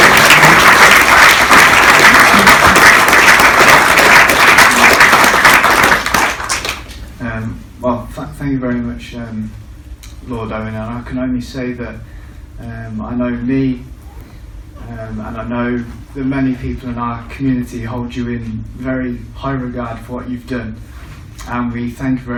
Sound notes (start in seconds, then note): 0.0 applause